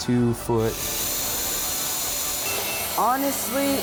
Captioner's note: drilling